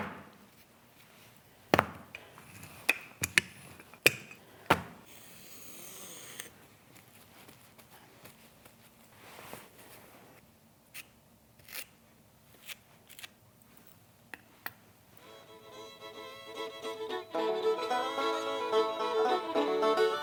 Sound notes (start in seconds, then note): 1.7 clay slapping; 5.4 clay scraping